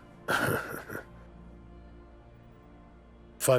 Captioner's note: laughs